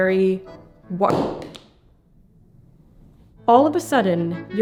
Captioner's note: object thuds